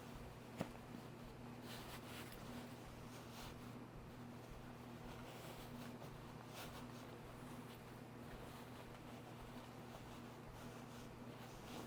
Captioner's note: fabric swishing and light grunting